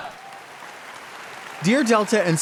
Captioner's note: audience applauds